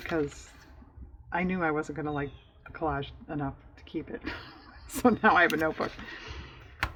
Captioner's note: laughs